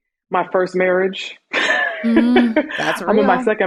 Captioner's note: laughs